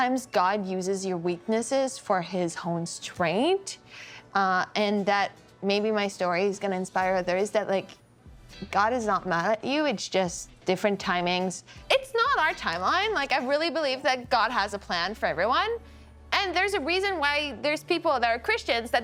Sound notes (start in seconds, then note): none